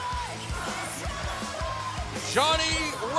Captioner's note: fans chanting